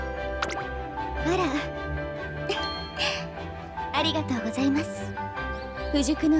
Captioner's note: laughs